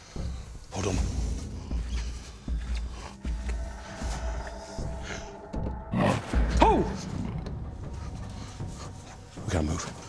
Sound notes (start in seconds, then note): 1.1 suspenseful music; 5.3 creature growling; 8.6 whispering